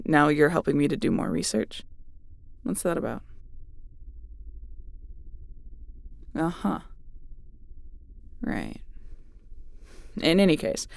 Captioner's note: suspicious tone